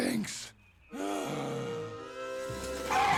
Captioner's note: sighing